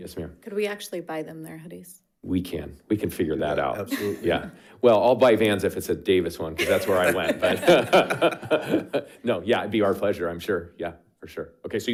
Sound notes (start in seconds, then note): 6.6 members laughing